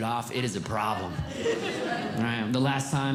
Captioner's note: audience Laughing